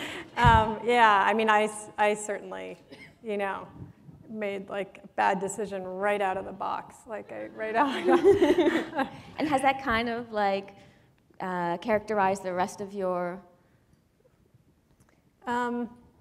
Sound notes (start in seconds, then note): 7.8 laughter